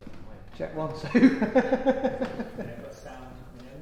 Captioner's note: laughs